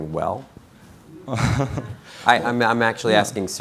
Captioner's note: laughing